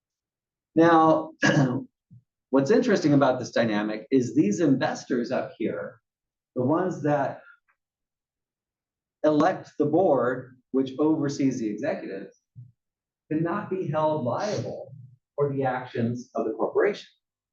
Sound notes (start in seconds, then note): 1.4 cough